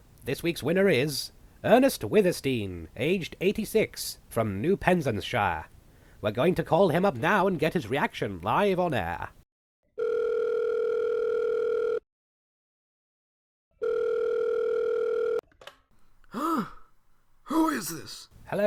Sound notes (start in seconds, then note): 9.7 phone ringing; 13.9 phone picks up